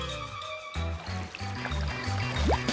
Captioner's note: none